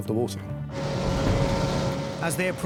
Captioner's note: engine revving